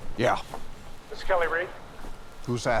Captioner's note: Randall on phone